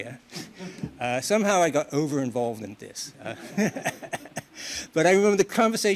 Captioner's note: laughs